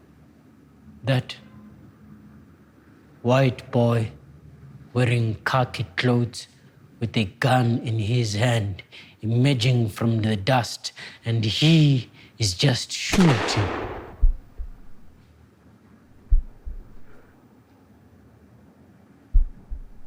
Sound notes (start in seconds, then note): 14.8 gunshot